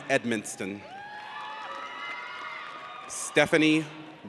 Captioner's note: audience cheers